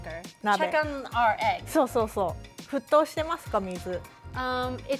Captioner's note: speaking Japanese